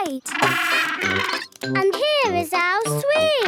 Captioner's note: honking